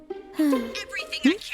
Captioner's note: sighs in lesbian